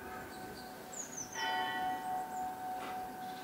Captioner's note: distant church bells